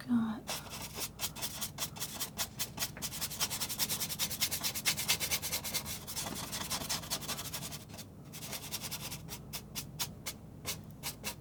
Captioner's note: scratching